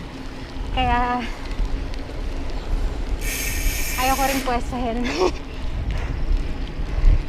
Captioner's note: laughs